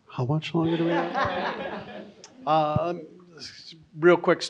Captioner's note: audience laughs